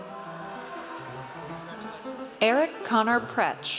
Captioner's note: audience cheers